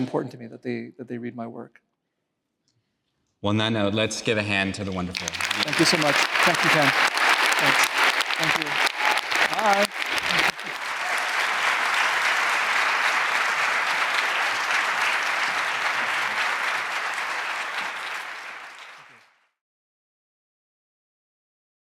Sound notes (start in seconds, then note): 14.7 applause